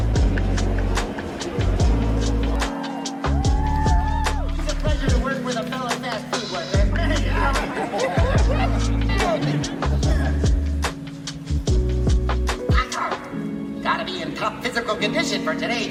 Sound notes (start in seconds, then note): 3.7 cheering; 6.8 laugh